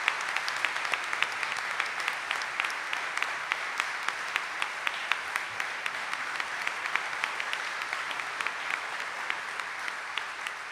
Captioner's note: audience cheering and applauding